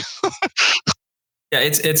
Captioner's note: laughs